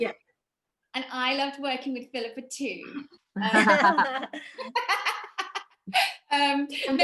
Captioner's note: all laugh